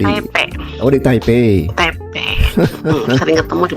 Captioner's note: tertawa